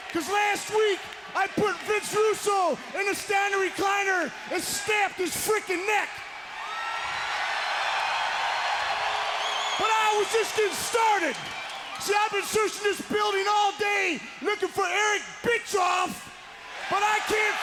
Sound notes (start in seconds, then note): 7.6 crowd cheers